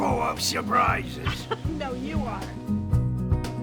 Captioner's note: laughter